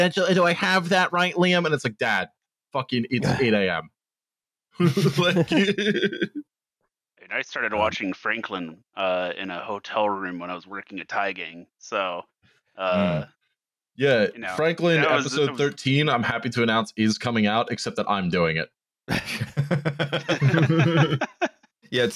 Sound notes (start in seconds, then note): 4.8 laughter; 4.8 laughing; 19.1 laughter